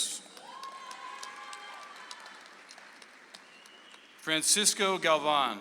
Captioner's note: audience applauds